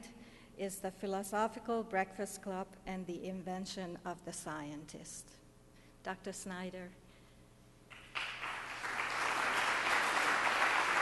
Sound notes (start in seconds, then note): 7.9 audience applauds